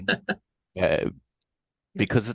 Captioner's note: laughing